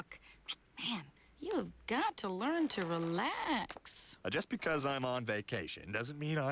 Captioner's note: clicks tongue